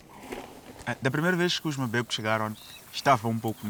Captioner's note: speaking Portuguese